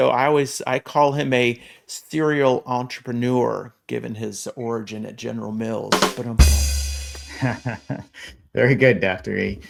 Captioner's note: lame laughter